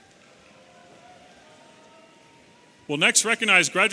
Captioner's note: audience cheering